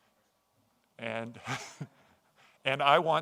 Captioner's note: chuckles softly